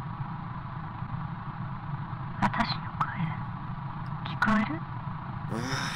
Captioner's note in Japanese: 粗いノイズ混じりの音声